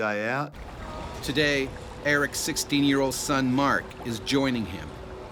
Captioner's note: voiceover